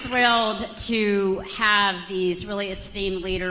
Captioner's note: applause